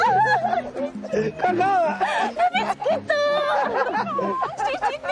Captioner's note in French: giggles